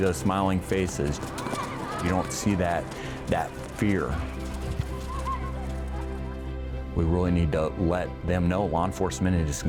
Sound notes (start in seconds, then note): 4.8 kids laughing and running